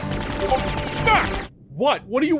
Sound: Discord message sound

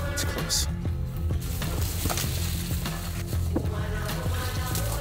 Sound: leaves rustling

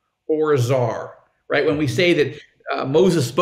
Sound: laughing

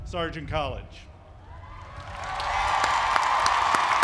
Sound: applause

